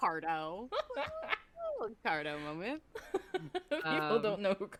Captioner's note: cackle